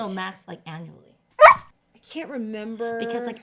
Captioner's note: barks